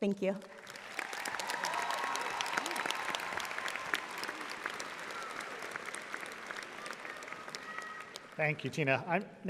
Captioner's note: audience applauding